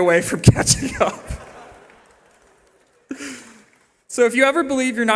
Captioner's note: laughter